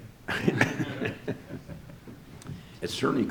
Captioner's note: all laugh